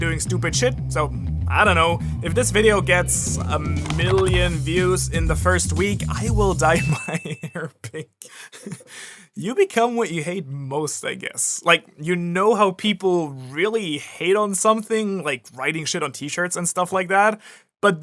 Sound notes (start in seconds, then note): 6.8 laughs uncontrollably